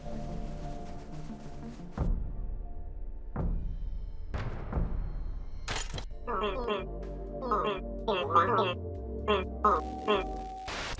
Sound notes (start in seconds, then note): 6.4 electronic jittering